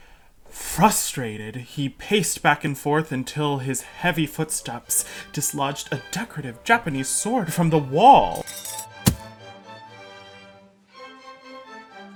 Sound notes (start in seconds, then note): 8.3 rattle of metal; 9.0 thud